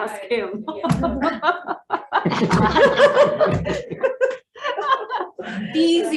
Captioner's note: representatives laughs